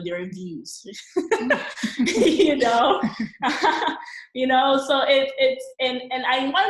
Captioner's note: both laughing